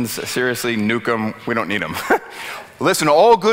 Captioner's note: giggles